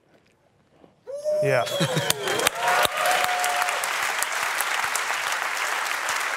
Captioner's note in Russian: публика аплодирует